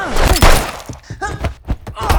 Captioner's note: gun firing; both moaning